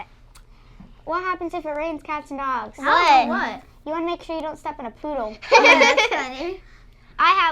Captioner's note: laughter